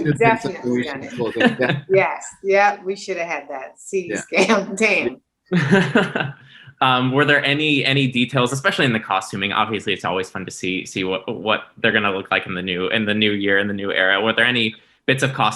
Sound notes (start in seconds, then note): 5.5 laughing